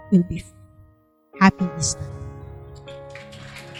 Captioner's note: applause